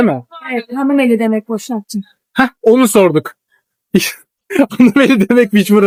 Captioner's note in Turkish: kahkaha